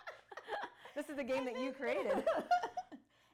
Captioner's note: laughing